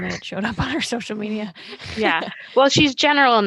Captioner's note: laugh